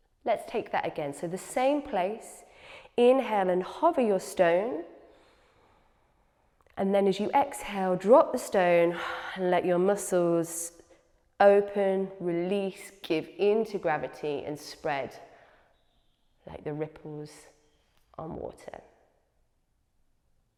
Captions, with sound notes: Let’s take that again. So the same place, inhale and hover your stone. [inhales] And then as you exhale, drop the stone [exhales] and let your muscles open, release, give into gravity and spread like the ripples on water.